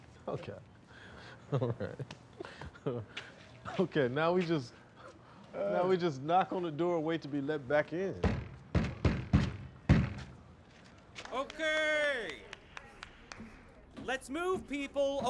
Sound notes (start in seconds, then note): 8.6 banging